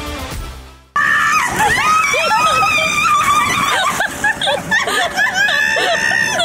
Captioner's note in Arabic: النساء تصرخ وتضحك